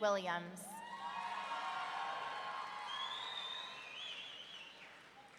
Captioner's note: audience cheering